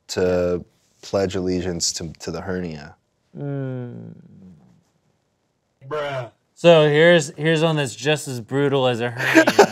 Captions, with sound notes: to pledge allegiance to the hernia. - Mmm. - [Voiceover] Bruh. - So here's one that's just as brutal as a hernia.